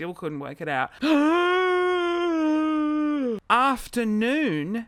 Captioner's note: gasps